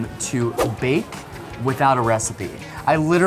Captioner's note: woosh